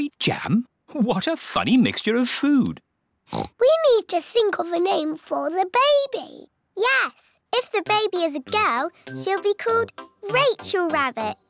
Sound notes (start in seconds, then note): 3.3 oinks